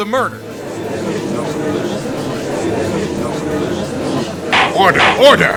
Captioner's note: gallery chattering